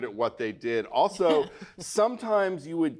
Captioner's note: Bridget chuckles